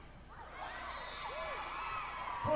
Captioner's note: whistle blowing and cheering